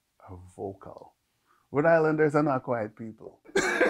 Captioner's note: laughs